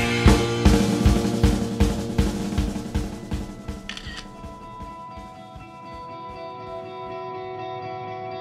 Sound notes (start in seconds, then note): 3.8 camera shutter